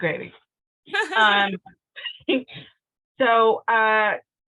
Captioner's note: laughing